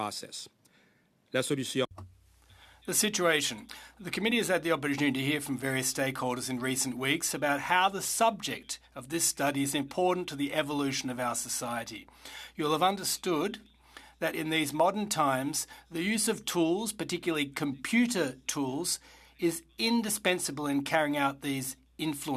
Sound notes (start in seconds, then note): 7.4 speaking French